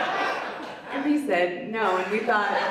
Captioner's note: audience laughs